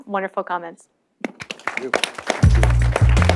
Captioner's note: audience applause; upbeat electronic music